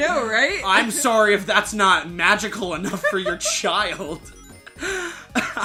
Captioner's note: laughing